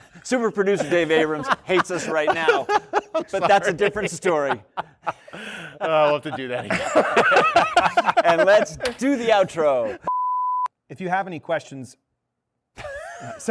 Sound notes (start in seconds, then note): 7.1 laughter